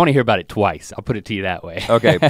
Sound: chuckles

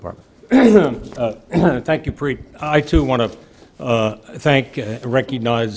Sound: clears throat

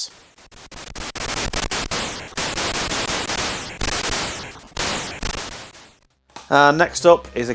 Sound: game sound FX

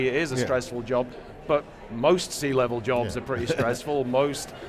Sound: chuckles

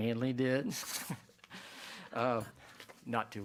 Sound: chuckles

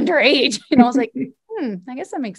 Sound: both laugh

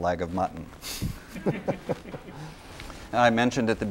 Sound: laughter

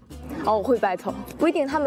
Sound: arguing

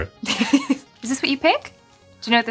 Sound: laughing

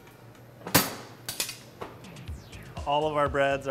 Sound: metal door clanging

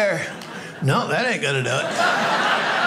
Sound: audience laughing

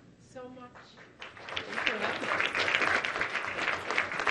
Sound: clapping

